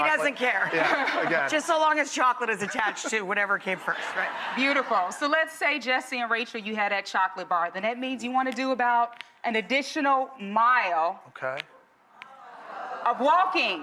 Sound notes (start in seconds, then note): 0.3 audience laughs